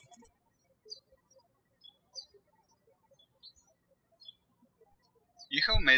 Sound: birds chirping

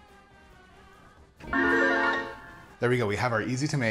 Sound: chimes ringing

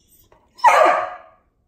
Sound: Oliver barks

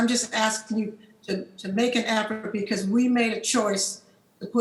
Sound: cracking drowns our speaker

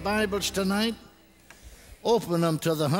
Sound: congregation responds

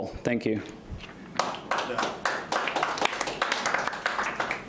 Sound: clapping

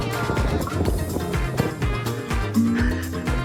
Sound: curious footsteps

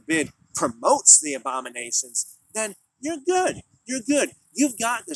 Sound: sarcastically spoken

